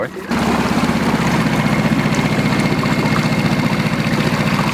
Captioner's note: boat puttering